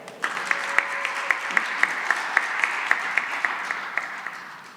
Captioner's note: cheering and applause